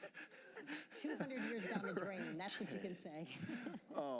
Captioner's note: laughter